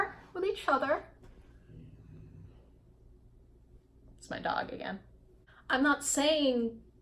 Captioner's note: dog noises